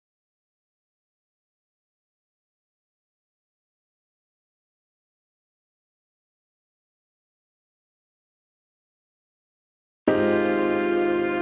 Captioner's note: no Music